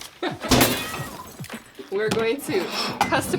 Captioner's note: box crashing